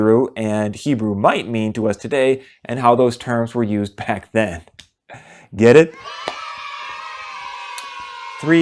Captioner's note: kids cheering